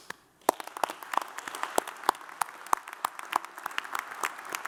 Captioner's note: audience applauds